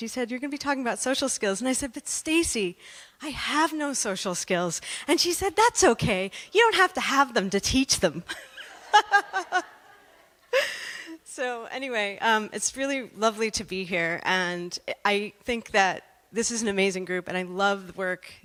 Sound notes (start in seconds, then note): 8.3 laughter